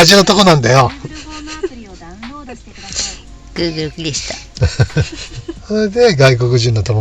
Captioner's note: laughs